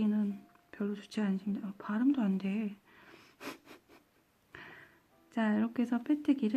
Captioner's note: giggles